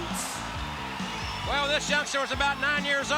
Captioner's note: crowd cheering